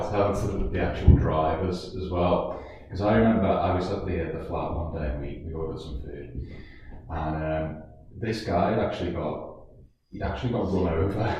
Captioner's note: laugh